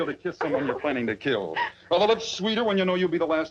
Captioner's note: Doris sobs